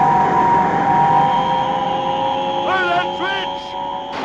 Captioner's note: buzzing noise